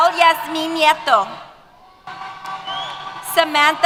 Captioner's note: cheers